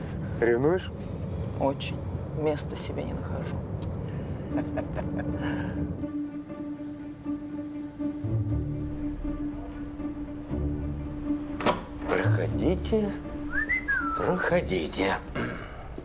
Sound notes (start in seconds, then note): 4.3 chuckles; 6.0 quiet background music